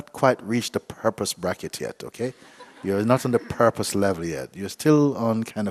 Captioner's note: laughter